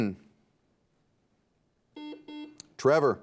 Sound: buzzer beeps

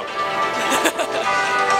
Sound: laughs

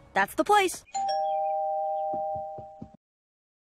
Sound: doorbell rings

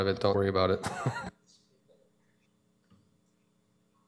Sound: chuckles

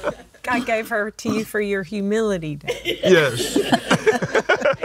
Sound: laughs

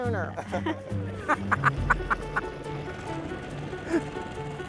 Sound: laughing

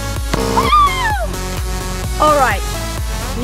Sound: buzzing

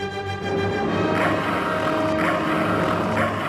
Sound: roar

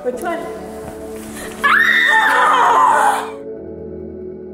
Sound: both screaming

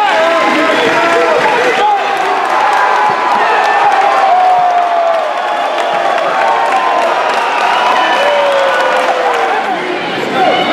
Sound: applause

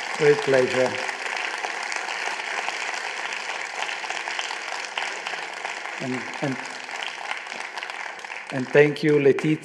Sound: applause

